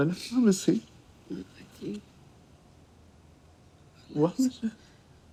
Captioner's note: speaking in foreign language